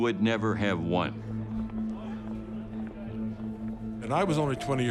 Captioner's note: chatter